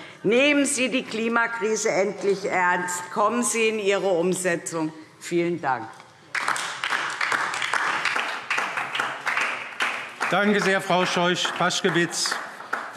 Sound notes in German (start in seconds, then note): 6.2 Beifall DIE LINKE und vereinzelt SPD